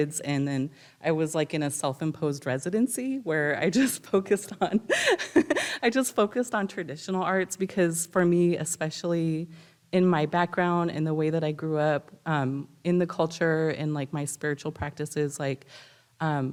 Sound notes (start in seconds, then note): 4.6 laughs